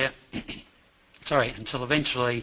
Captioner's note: clears throat